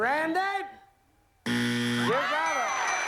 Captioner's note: buzzer